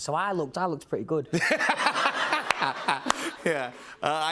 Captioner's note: laughter